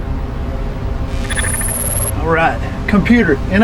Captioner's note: static buzzing